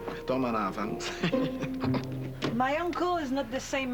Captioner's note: Rire